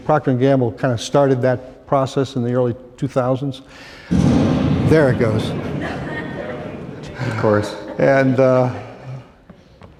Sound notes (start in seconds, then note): 4.1 explosion; 5.5 laughter